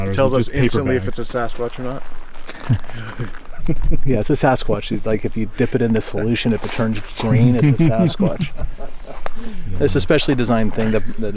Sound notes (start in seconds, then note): 2.5 chuckles; 8.8 chuckling